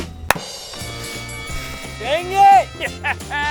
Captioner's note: drum rolling; bell ringing